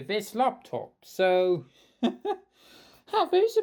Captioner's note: chuckle